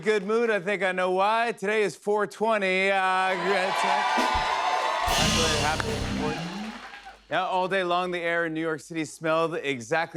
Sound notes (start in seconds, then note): 3.1 cheers and applause